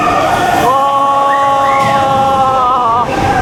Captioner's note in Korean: 아아아아아아아아아아